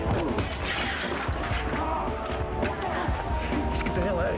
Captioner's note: glass shatters